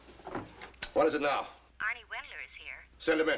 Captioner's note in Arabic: تعليق صوتي